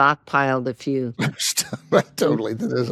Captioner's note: laughs